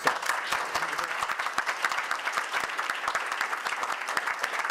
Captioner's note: audience applause